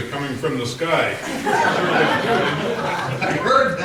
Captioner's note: laughter